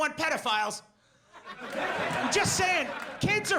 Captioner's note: audience laughs